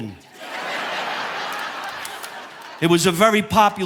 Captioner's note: audience laughing